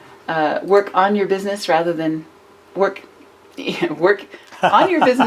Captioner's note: laughs